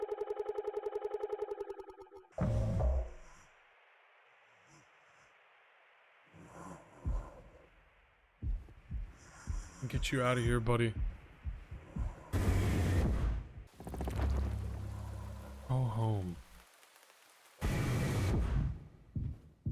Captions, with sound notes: (Curly breathing haggardly) I'm gonna get you out of here, buddy. "Go home."